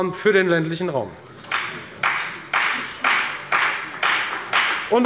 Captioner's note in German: Beifall bei der FDP